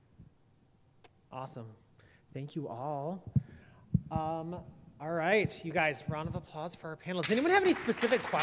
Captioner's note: applause